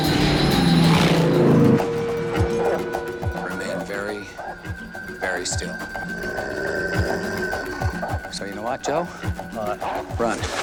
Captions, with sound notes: (dog barking) Remain very... very still. (growling) So, you know what, Joe? What?